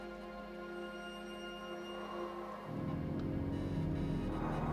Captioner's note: heavy breathing